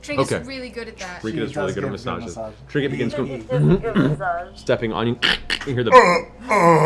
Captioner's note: cracking; groans; grunts